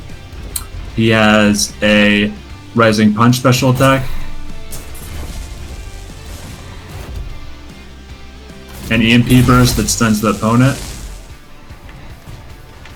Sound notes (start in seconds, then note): 3.6 explosive game effects; 4.0 rock music; 10.5 rock music